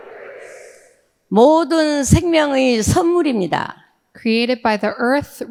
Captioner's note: speaking in foreign language